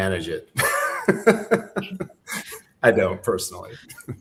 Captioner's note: laughs